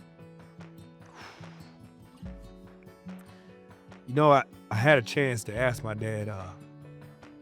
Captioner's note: exhales sharply